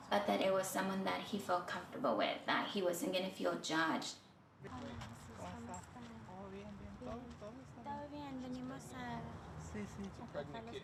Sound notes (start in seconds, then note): 4.5 speaking in Spanish